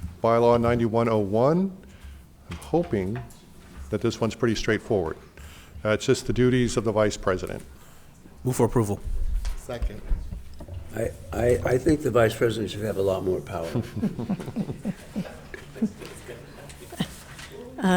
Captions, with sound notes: - Bylaw 9101, I'm hoping that this one's pretty straightforward. It's just the duties of the vice president. - Move for approval. - Second. - I think the vice president should have a lot more power. (members laughing)